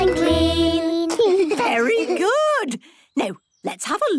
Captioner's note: children giggling